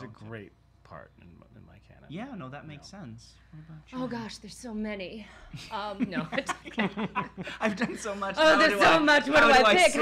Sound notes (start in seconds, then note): 6.0 laughing